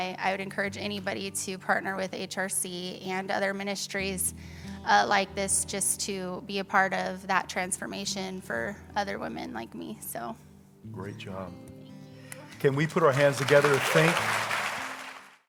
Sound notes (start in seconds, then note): 14.2 congregation applauds